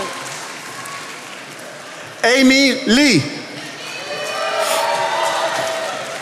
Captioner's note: attendees applauding